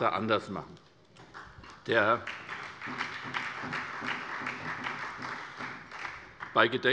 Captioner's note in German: Beifall bei der SPD